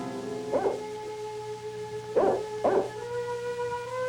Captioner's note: dramatic instrumental music; dog barking